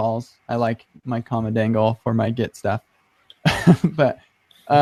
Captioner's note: laughs